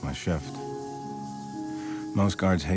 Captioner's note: can spraying